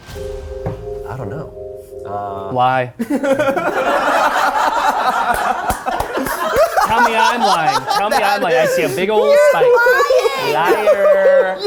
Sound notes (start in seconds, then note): 0.0 pensive music; 3.4 all laughing